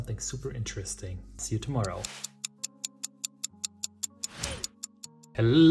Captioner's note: clock ticks